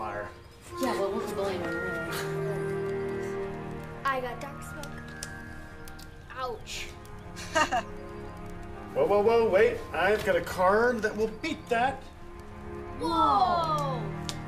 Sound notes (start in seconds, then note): 7.4 laughs